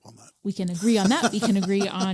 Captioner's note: laughs